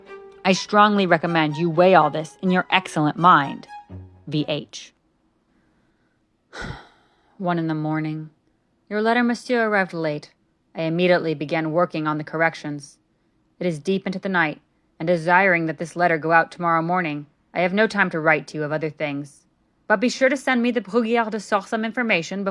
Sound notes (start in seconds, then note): 4.6 music fades away; 6.5 sigh